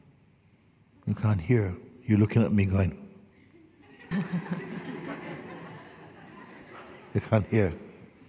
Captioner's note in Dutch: gelach